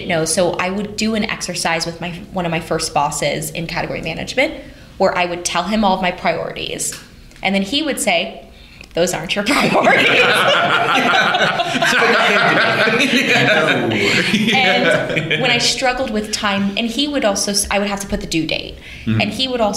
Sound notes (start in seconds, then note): 12.8 laughter